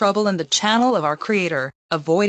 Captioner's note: none